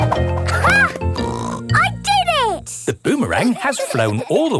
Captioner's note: snorts